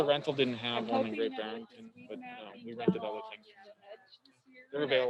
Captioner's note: crowd chattering